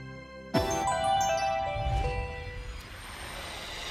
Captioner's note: musical sound effect